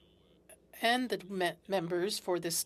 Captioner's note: speaking French